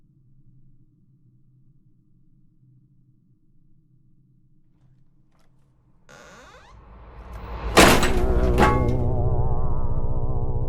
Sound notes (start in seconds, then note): 6.0 door creaks and slams; 8.8 didgeridoo droning